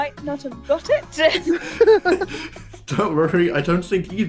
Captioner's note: laughter